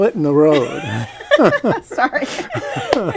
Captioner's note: laughter